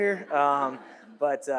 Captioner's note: audience laughs